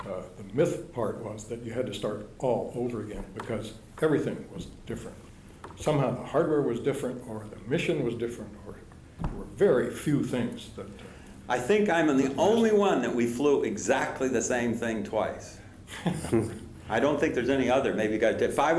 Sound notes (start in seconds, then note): 15.8 laughter